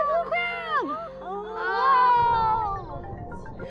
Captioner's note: exclaiming excitedly